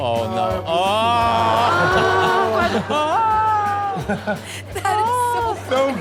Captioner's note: crowd laughs; exaggerated cry; laughs